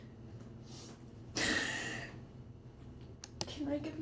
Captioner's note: sollozando